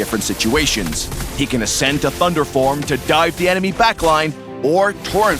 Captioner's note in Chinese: 雷霆